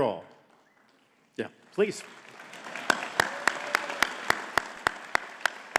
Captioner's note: audience clapping